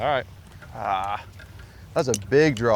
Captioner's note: groans